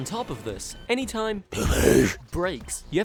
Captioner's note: demonic voice: dobeesse